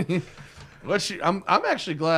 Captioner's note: laughter